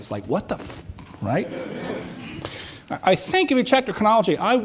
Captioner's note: audience chuckles